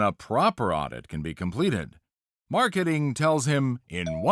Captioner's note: doorbell dings